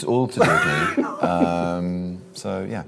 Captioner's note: laughs